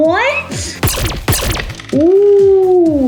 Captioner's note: robotic gun firing